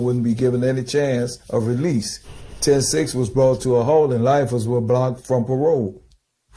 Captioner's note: none